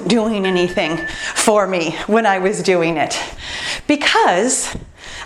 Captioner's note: timer beeps